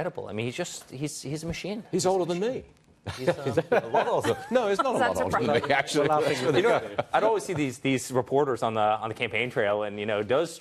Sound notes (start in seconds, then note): 6.3 laughter